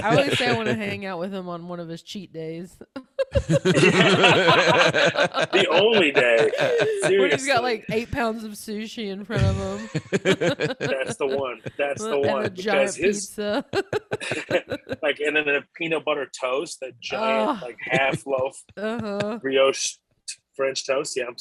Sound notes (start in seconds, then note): 3.0 laughter